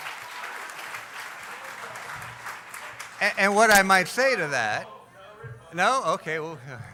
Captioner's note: cheering